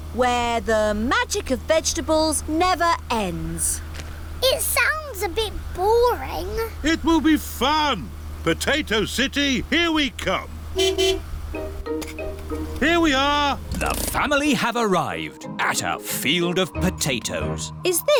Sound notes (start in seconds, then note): 11.1 honks horn